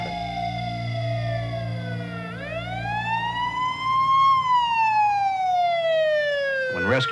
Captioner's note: police sirens